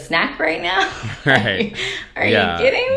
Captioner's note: chuckling